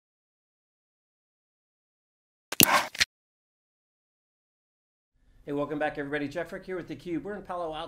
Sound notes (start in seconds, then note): 2.5 clicking sound